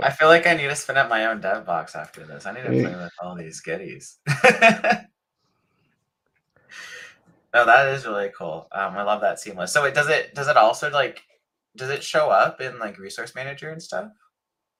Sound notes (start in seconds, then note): 6.4 laughs